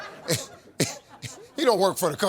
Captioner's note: audience laughs; Steve laughs